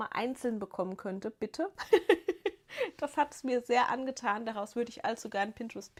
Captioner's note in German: gelächter